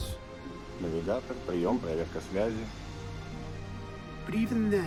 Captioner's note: speaking in foreign language